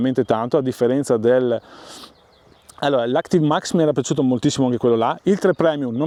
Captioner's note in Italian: sbuffare